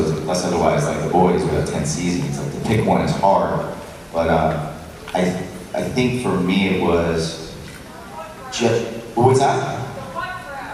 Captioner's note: fan Shouts The Butt Crack